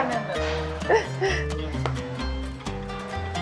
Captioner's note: laughing